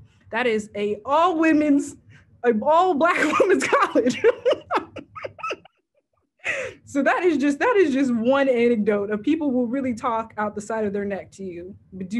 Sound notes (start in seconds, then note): 3.9 laughs